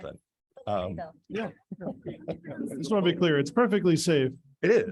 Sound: indistinct conversation

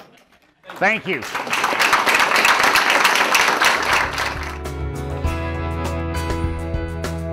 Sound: applause

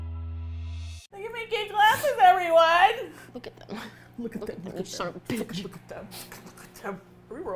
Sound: upbeat music; muttering menacingly

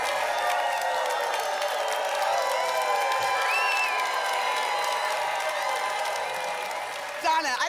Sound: applause continues

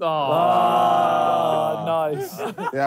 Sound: all groaning

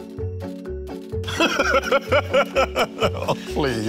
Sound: laughing

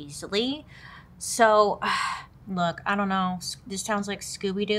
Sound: sighs

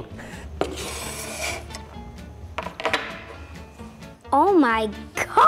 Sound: plate scraping

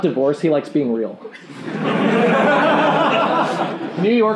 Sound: laughing

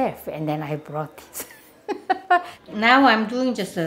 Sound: laughing

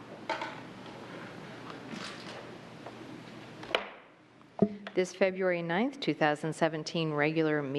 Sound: gavel

